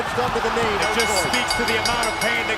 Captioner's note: bell ringing